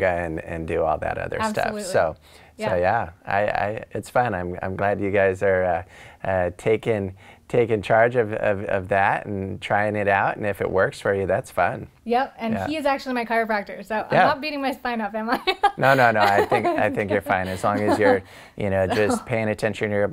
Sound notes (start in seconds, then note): 15.5 laughs